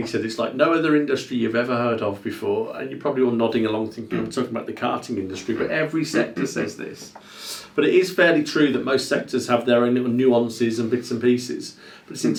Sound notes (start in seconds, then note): 6.1 laughs